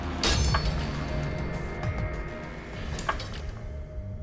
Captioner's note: crashing